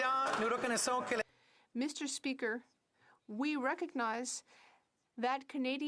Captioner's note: some Applause